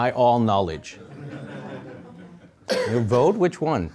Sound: audience laughing

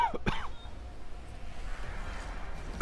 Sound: cough cough

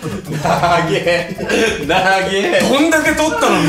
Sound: laughs

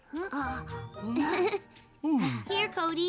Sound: Pinkfong chuckling

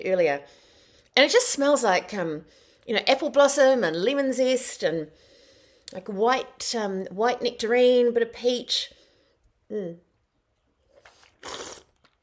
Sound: slurp mmm!

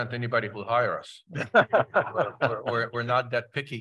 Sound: chuckles

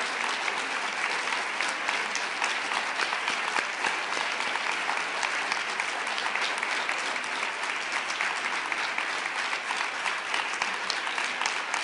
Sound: applause and cheers

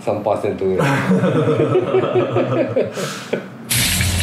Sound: laugh

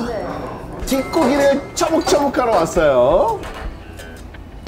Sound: super excited

